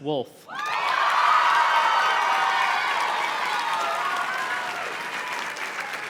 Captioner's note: audience cheers and claps